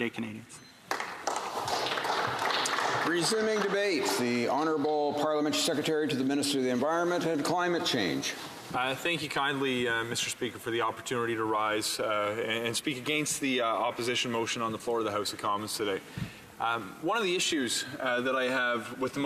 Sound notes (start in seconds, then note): 5.7 applause